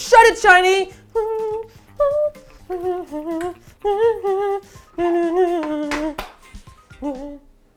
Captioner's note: humming